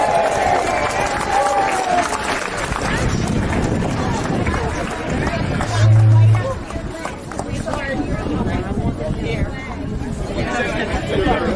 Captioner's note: cheering